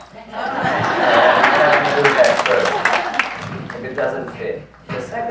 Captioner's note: audience laughs